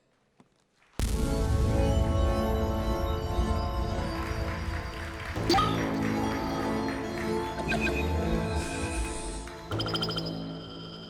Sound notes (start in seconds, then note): 1.4 applause